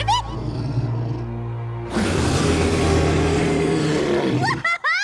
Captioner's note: roar